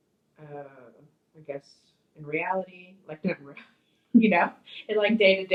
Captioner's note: speaks softly